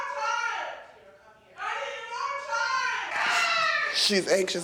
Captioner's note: screams